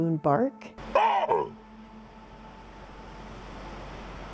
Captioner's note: baboon barks